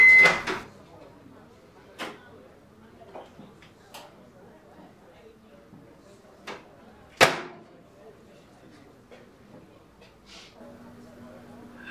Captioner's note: microwave beeps